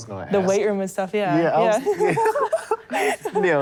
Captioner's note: laughter